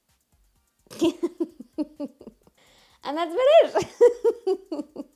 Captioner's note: laughs